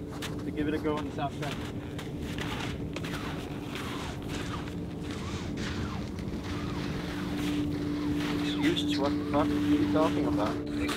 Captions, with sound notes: give it a go on the south track. [snow squelching] Excuses? What the fuck are you talking about?